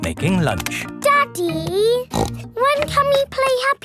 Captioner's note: snorts